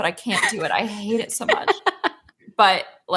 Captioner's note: laughs